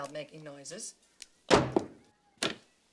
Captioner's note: bangs